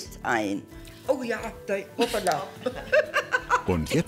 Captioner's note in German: lacht